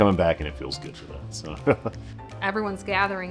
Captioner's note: chuckles